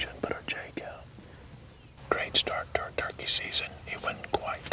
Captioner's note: whispering